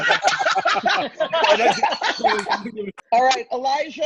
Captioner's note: group laughs